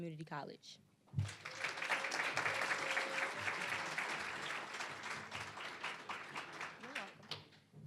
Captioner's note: applause